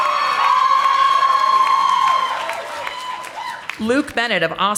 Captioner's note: audience applauding